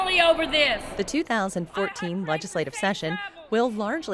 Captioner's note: cheers